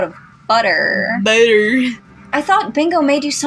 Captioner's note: slurred